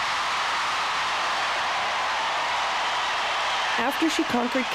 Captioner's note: cheering